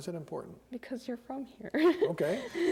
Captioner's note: laughs